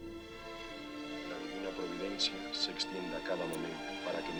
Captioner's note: Quietly praying in Spanish